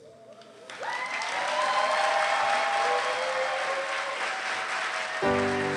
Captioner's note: cheering and applause